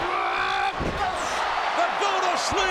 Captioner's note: Punk yells